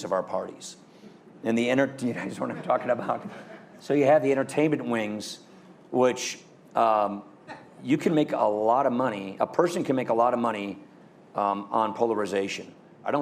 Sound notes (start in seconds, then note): 2.2 laughter